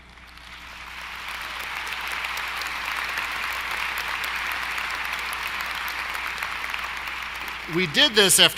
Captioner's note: applause